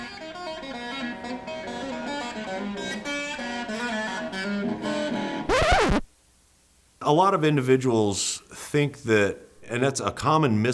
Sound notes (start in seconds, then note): 0.2 electric guitar playing; 5.4 record scratch